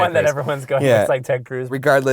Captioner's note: voiceover